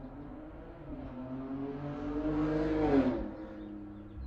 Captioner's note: car engine roaring